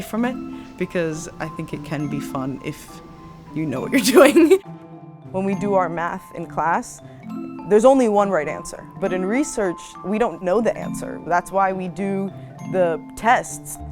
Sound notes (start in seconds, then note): 3.9 laugh